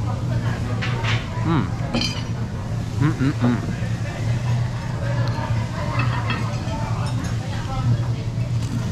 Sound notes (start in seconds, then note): 1.1 satisfaction sounds